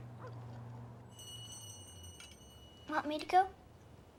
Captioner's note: bell ringing